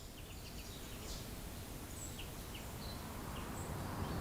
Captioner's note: birds chirping; wind howling